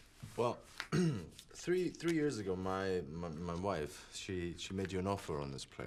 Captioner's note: throat clears